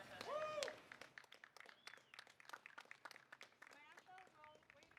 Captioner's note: audience applauding and cheering